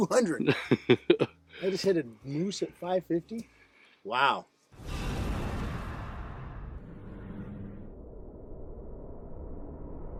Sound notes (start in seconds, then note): 4.7 woosh